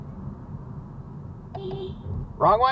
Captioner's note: beepbeep